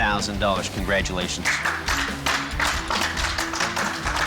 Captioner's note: applause